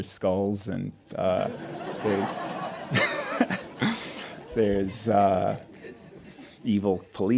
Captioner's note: audience laughing